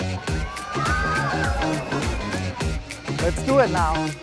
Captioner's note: people screaming